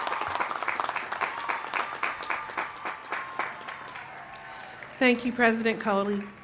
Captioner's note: applause